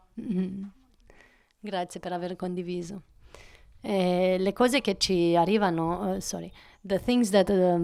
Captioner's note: Italian speaking